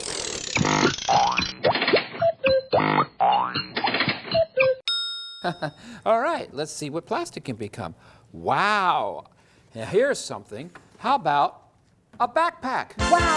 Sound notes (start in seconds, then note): 0.0 CRANKING noise; 0.3 silly factory noises; 4.8 ding!